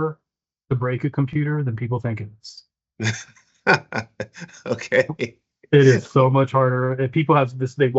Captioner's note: laughs